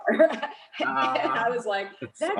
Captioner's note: laughing loudly